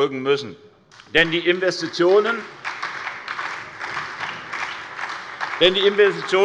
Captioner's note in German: Beifall bei der SPD